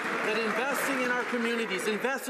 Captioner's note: some Applause